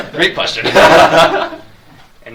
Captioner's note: audience laughs